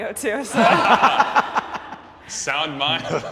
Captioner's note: comics laugh